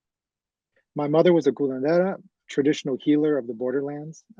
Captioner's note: spanish